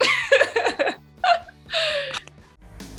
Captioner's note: laughing; upbeat music